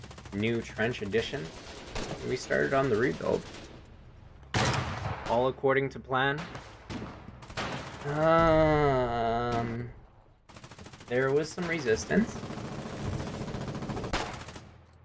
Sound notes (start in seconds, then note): 4.5 gunfire; 6.4 moar gunfire; 10.5 machine gun fire; 10.6 heavy fire; 12.9 machine gun and single rifle rounds fill the air